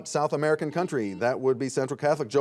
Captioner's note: buzzer beeping